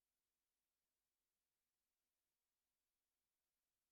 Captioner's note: none